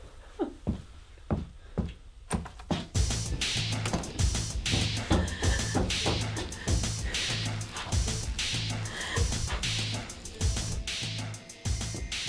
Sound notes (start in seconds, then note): 0.2 muffled crying; 2.9 tense music; 3.8 footsteps